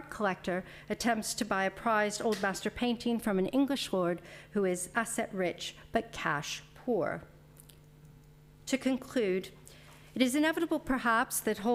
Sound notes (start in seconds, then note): none